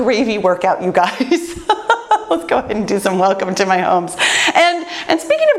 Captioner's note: laughs